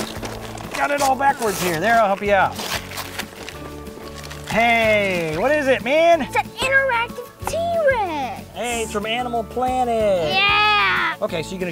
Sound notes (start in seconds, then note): 0.0 paper ripping